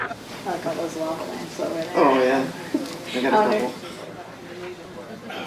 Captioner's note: everyone laughing; people chattering